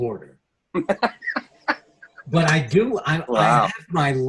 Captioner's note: laughs